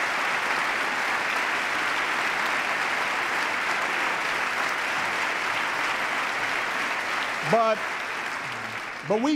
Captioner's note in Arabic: تصفيق